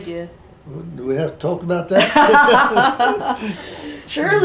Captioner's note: laughter